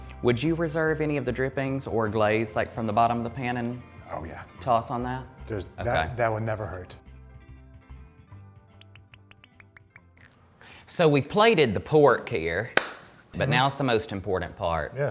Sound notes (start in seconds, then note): 8.8 water popping; 10.5 person munching